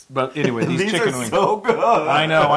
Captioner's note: laugh